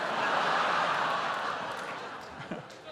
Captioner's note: laughter